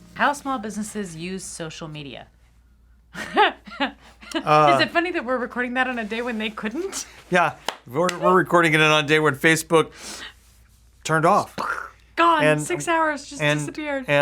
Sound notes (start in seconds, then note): 4.2 laughs